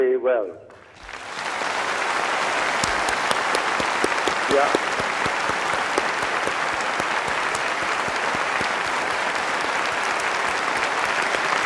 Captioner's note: applause